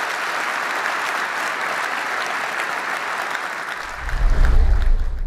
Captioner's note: applause